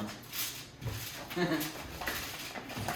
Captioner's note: laughs